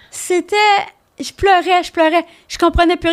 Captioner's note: in french